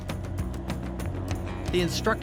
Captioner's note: truck engine revving